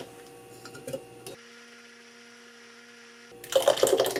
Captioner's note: whirrrrrrrrr